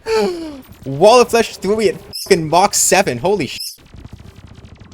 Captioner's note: squeak